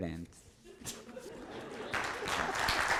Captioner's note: audience laughs; audience applauds